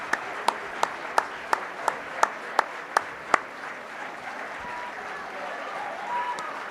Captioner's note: applause